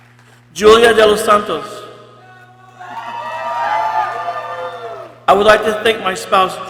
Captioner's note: people cheering